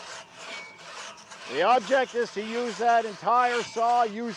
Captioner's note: saw blades screeching